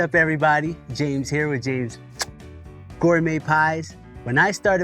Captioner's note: smooches